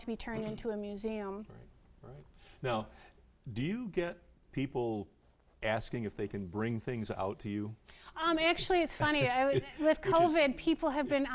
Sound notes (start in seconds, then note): 8.6 laughing